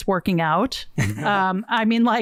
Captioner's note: laughs